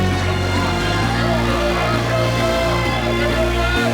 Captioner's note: cheering